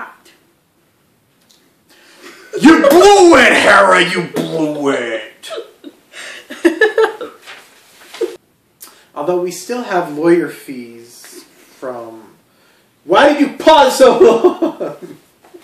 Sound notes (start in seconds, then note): 0.1 paper falls down; 4.6 soft talk; 6.2 laughs; 8.8 snaps finger